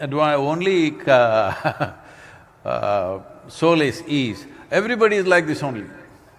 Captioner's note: laughs